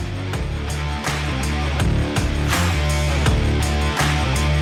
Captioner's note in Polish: Aplauz